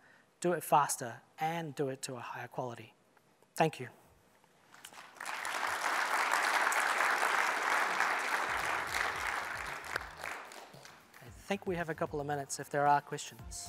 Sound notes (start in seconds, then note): 10.2 applause